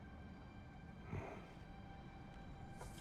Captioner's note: grunt